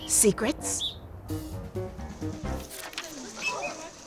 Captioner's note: whistle chirps; whistles chirping